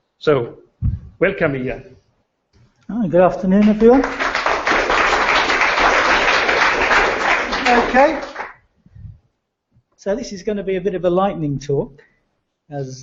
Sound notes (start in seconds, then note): 3.4 applause